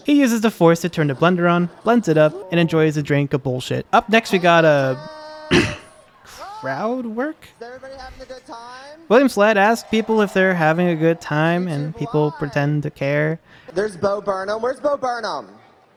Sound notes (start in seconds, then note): 5.4 clearing throat